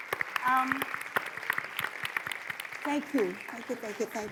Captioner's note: audience applauds